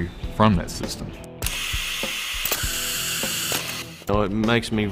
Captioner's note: machine Clicking